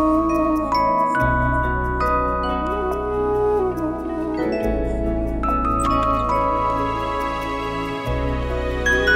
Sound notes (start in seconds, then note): 5.7 door opens